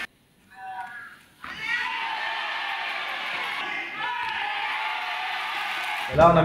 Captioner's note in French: encouragements, applaudissements